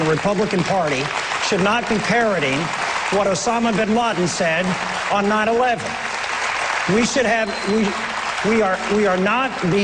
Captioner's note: applause